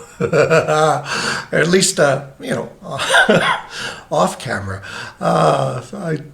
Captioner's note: wheezes